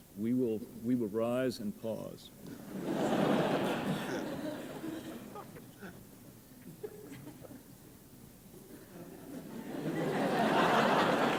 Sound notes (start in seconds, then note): 2.5 laughter